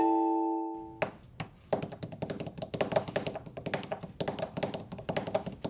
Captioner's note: tapping on desk